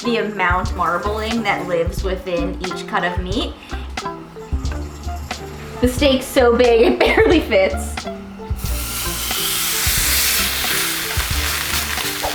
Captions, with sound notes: the amount of marbling that lives within each cut of meat. The steak's so big it barely fits. (steak sizzling)